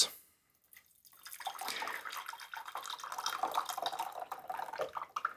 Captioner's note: water pouring